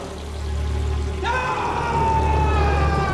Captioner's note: screams